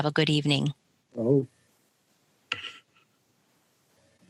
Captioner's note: speaking in Native language